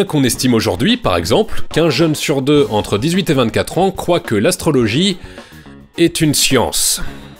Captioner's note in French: soupir